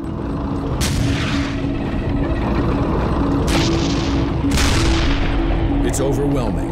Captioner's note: tanks rumbling; explosions booming